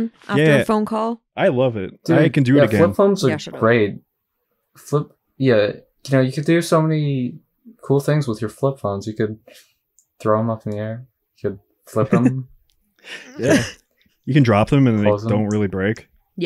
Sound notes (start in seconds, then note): 13.1 chuckles